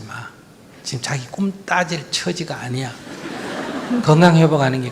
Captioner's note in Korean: 청중 웃음